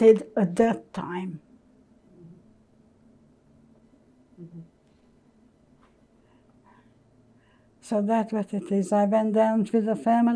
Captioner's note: pauses 6 seconds